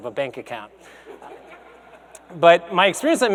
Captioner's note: audience laughs